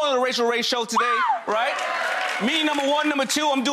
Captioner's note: cheers and applause